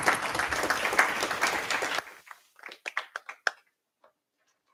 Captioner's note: applause